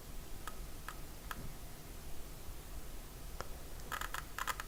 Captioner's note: creaking